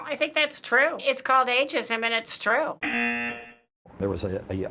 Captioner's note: buzzer